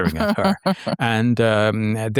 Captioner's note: laughs